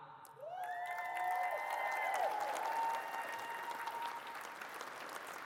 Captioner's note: audience cheers and claps